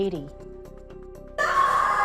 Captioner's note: ghostly screaming